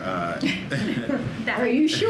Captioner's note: laughter